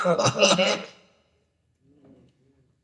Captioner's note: laughter